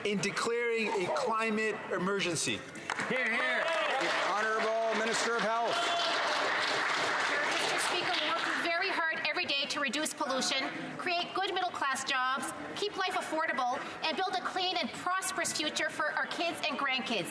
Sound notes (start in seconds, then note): 5.5 some Applause